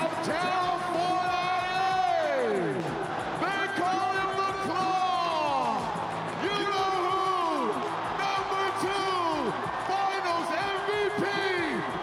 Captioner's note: cheering